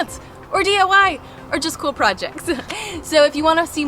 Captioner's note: chuckles